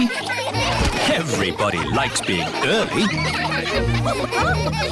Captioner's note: laughter